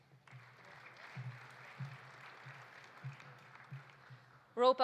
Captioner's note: audience applauding